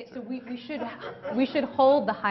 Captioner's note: Laughter; 笑聲